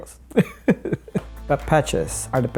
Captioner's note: laughs